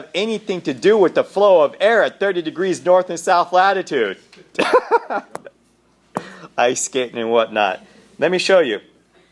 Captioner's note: laughter